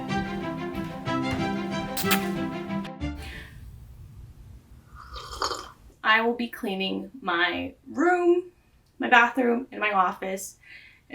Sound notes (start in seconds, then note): 5.0 aggressive slurp